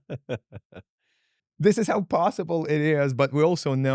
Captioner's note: laughing